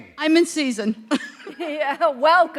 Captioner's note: chuckle